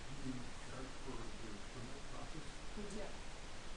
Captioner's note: man speaking